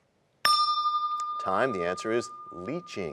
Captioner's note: bell rings, time expires